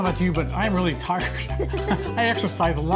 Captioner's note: laughs